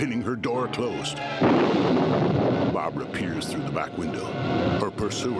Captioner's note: crashing; thunder striking